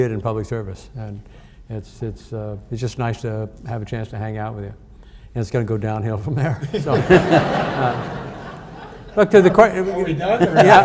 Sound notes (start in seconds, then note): 6.6 audience laughs